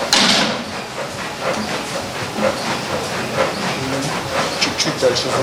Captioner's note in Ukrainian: Шум бігової доріжки